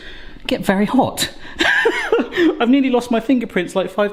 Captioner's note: laughs